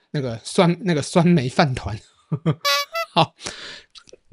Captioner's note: bitter laugh